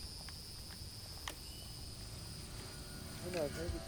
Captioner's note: tape player clicks; radio Announcer